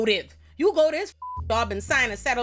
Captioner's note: beep